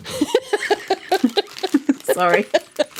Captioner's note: laughing